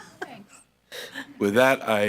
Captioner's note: laughs